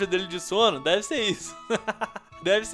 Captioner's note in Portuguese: risos